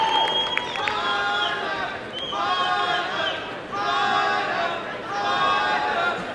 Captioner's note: chanting